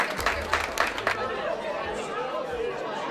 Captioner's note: cheers and applause